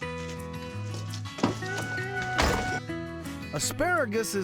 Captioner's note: door opens, closes